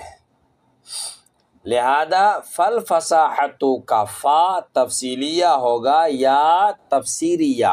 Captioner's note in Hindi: नाक से की जाने वाली आवाज़